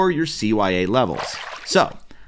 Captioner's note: water splashing